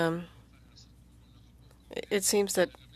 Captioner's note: speaking french